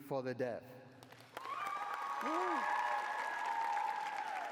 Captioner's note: cheering